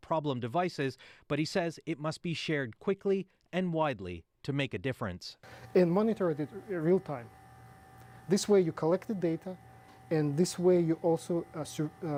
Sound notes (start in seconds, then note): none